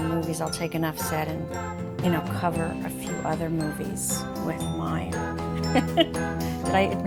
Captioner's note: chuckles